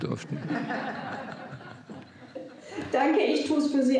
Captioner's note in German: Lachen